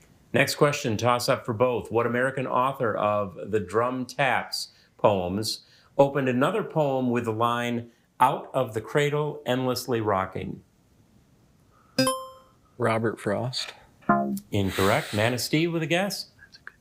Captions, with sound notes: Next question. Toss-up for both. "What American author of the Drum-Taps poems opened another poem with a line "Out of the cradle endlessly rocking." (buzzer chimes) Robert Frost. (womp chimes) Incorrect. Manistee with a guess?